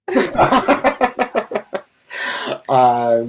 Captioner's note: laughing